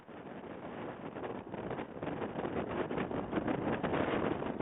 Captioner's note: wind rustling